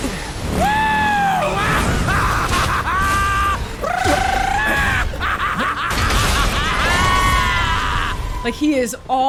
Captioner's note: laughs maniacally